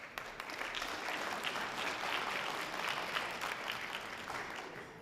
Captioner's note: light audience applause